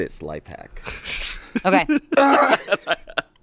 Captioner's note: laughs